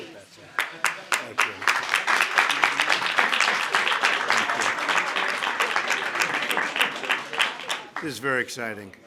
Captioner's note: applause